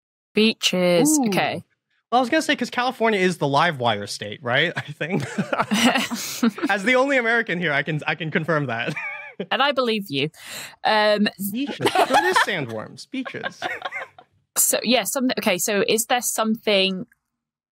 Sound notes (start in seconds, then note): 4.5 group chuckling; 9.0 wheezes